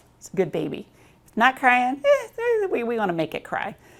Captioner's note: crying sounds